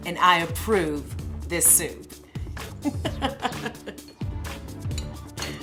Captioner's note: laughter